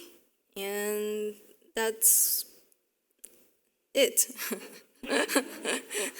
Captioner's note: chuckles